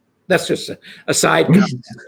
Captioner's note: laughs